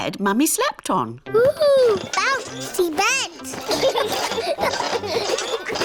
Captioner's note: children laugh